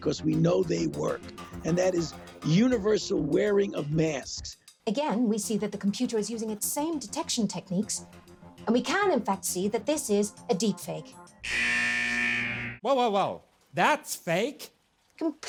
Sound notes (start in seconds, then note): 11.4 buzzer